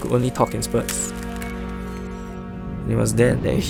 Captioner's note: glass shattering